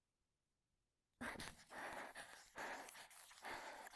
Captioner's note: sharp exhale, scribbling resumes